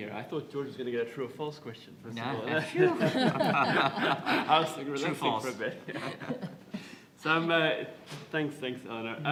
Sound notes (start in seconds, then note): 2.8 laughter